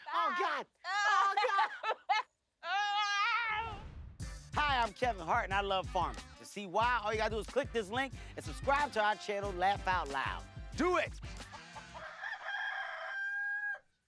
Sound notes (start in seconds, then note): 2.3 groans; 11.6 loud crowing